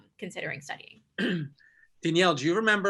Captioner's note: clears throat